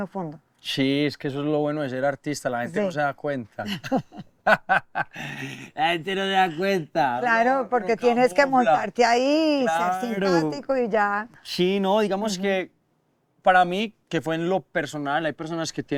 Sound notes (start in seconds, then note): 1.9 laughter